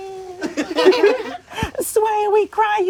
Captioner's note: crowd laughing